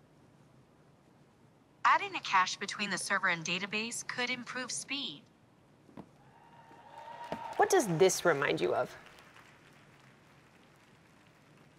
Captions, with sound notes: [CHEERING] What does this remind you of?